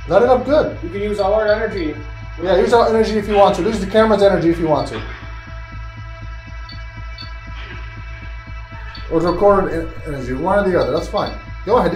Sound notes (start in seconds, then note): 6.8 device beeping